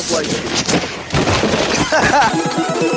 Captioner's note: laughs; sped up music